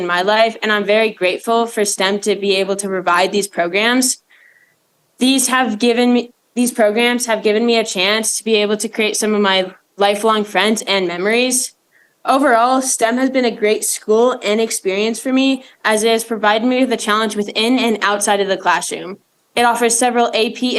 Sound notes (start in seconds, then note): none